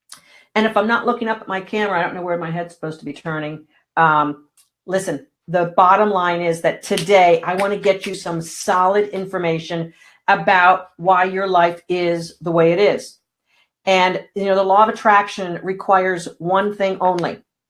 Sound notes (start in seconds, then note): none